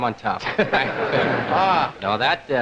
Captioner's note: group laughing